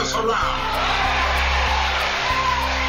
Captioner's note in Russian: аплодисменты